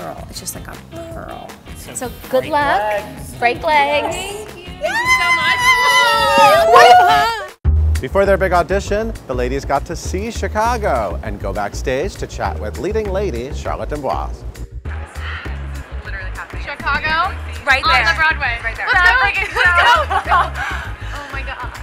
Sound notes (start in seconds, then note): 6.2 yelling